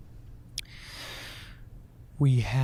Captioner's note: inhales deeply